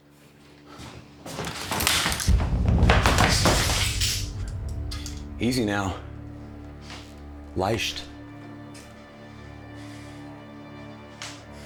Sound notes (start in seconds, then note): 2.3 foreboding music; 7.6 Brown speaking German